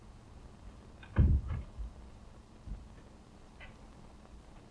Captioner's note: door thudding